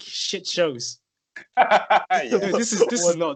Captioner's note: laughs in guilty conscience